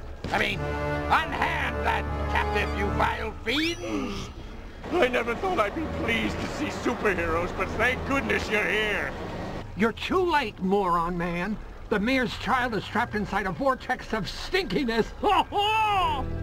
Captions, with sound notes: I mean... unhand that captive, you vile fiends! [sighs] I never thought I'd be pleased to see superheroes, but thank goodness you're here! You're too late, Moron Man! The mayor's child is trapped inside the Vortex of Stinkiness! [laughs]